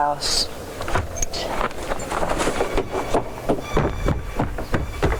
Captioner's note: footsteps crunching